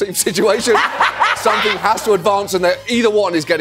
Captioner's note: laughing